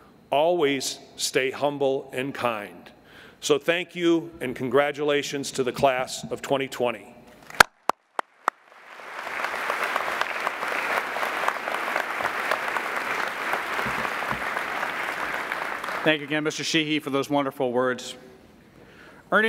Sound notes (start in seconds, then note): 7.5 applauding